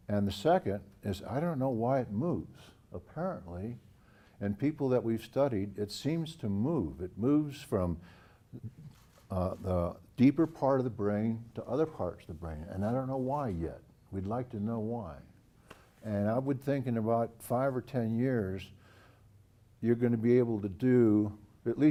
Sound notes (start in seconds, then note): none